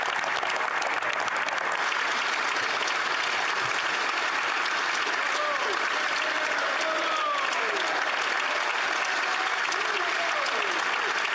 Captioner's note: applause